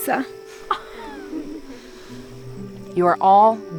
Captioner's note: campers giggling